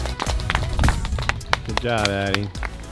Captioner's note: audience applauding